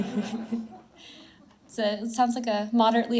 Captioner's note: audience laughs